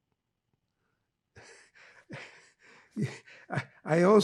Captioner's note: laughing